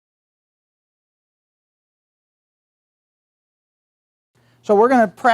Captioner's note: silence